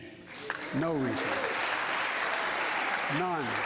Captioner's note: applause